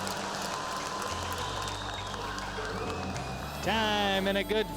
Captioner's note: cheers and applause